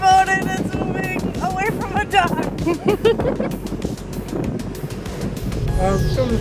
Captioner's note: laughter